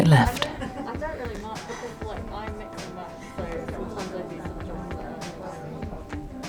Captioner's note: background chatter; gentle music